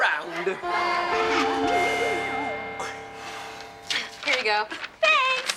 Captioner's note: school bell rings